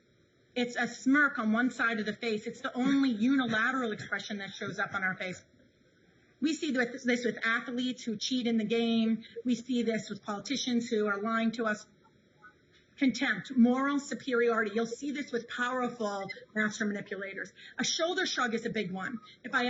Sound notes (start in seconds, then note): 2.7 the interviewer chuckles